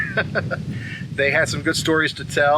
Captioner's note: laughs